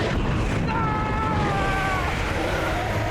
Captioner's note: screams